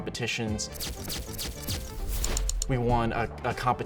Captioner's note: camera Shutter Clicks Multiple Times